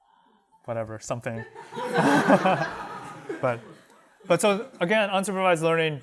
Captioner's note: laughter